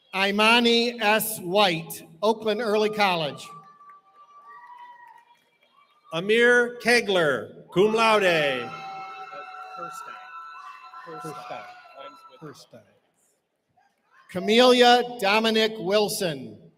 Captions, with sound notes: Imani S. White, Oakland Early College. Amir Kegler, cum laude. [CHEERING] Camellia Dominique Wilson.